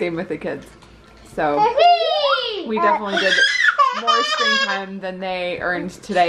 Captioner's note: child crying